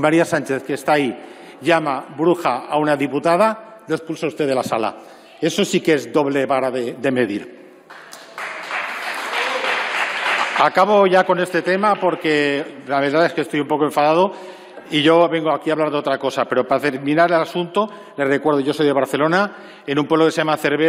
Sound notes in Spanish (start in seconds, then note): 7.8 Aplausos